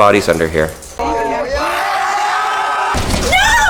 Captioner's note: cheering crowd